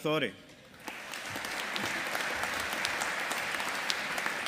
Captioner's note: audience applauding